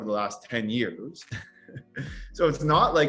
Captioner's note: laughs